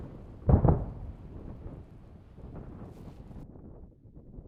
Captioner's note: double boom